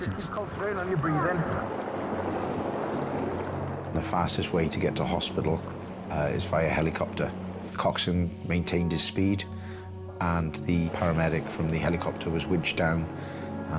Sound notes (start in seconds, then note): 2.7 helicopter rumbling